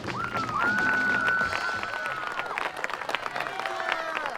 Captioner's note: cheering